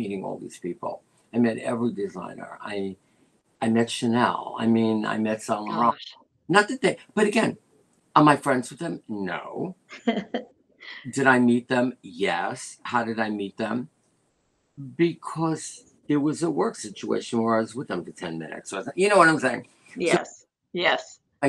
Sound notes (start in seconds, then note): 11.0 laughter